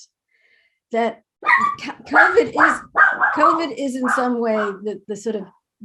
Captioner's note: dog barking